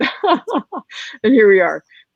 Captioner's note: laughing